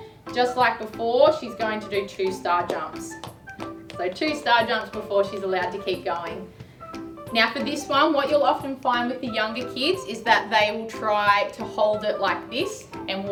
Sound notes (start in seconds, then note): 2.6 ball bouncing